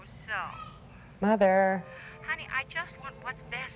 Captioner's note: on phone; on phone